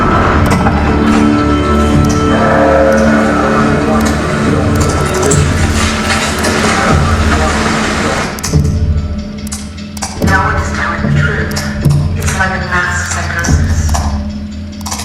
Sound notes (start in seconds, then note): 0.0 clicking and car noises; 3.4 clicking; 9.9 clicking and muffled voices; 14.7 rain and clicking